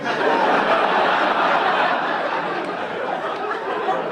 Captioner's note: audience laughing